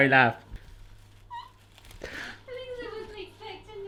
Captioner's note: laughs